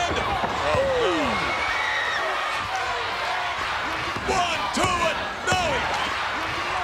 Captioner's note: applause